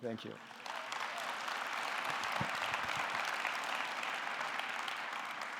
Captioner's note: audience clapping